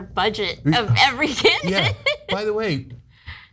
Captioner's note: laugh